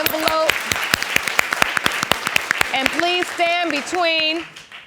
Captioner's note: applauding